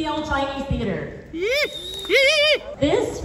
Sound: whooping

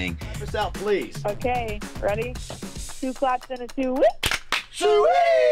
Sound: claps

